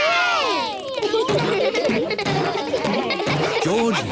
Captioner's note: kids laughing